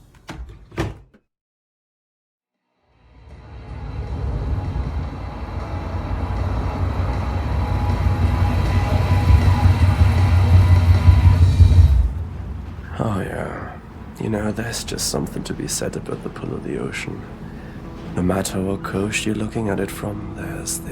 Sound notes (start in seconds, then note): 0.0 door shuts; 3.5 engine rumbles